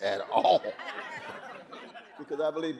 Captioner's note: audience laughing